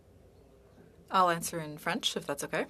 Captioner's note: speaking French